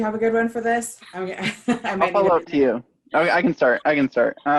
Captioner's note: laughter